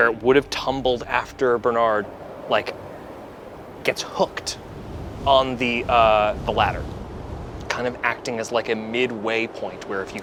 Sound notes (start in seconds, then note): none